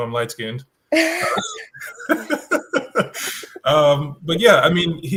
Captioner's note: everyone laughs